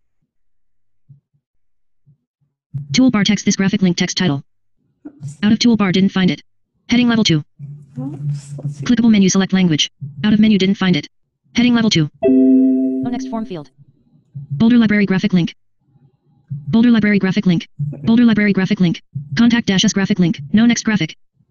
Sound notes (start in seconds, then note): 12.2 error bell